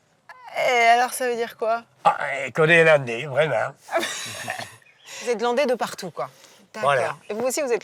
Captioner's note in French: rires